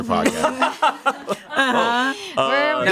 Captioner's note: everyone laughs